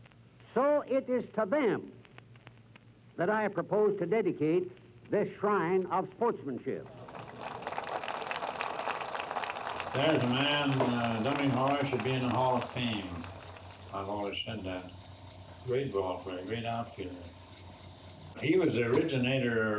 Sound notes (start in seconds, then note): 9.3 applause